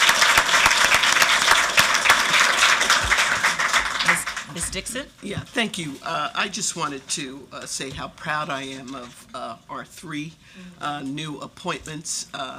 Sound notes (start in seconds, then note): 3.2 applause